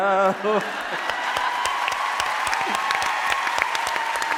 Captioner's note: audience cheering